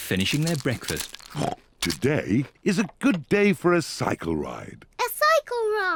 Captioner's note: snorts